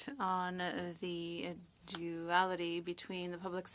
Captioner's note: speaking French